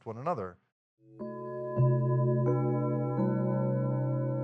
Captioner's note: bells chime